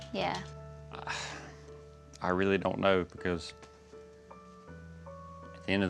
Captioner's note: sighs